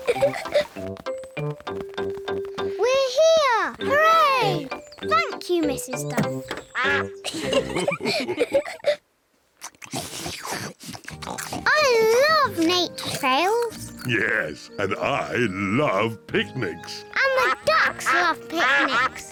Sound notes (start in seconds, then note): 6.7 all laugh; 7.2 all munch